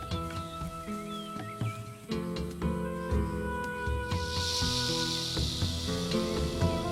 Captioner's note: snake hissing